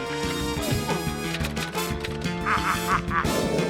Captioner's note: grunts